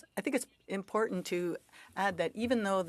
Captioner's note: speaking French